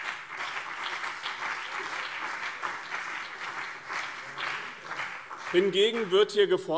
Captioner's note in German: Beifall BÜNDNIS 90/DIE GRÜNEN und CDU